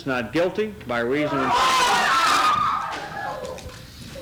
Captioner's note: screaming